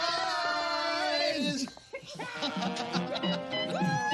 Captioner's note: laughing & cheering